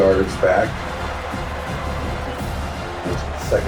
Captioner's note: crowd Noises